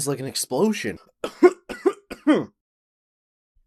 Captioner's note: Aiden coughs